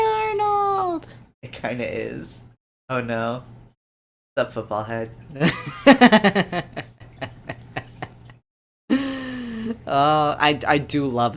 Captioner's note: laughter